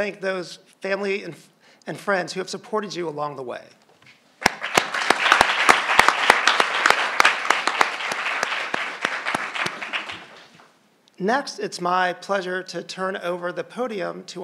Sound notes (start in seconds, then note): 4.4 crowd applauding